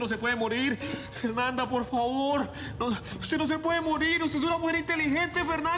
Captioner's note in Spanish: Sollozos